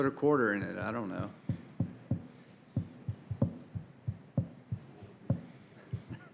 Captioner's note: laughter